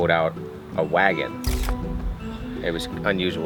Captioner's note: camera snapping